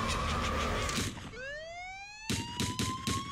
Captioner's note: witch cackling; sirens wail; gunshots